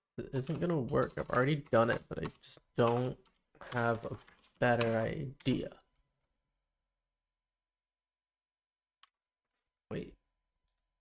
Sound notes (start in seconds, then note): 5.8 silence